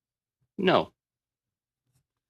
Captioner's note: speaking French